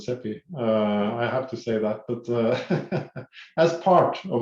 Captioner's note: laughs